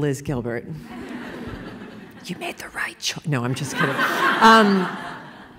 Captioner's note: laughter; whisper